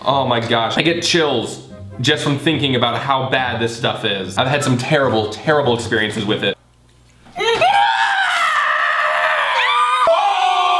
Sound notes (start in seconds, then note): 7.4 screaming